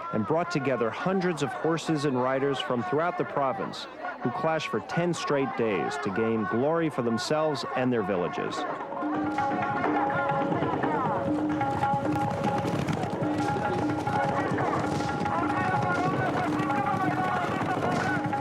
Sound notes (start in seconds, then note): 8.8 upbeat instrumental music; 11.5 horses clip-clopping